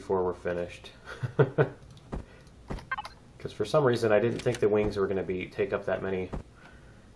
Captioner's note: laughs